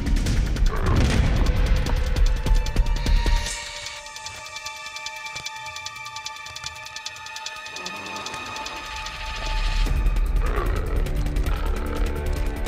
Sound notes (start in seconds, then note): 0.3 intense music plays; 9.2 Nikita growling